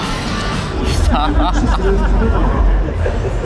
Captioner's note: laughs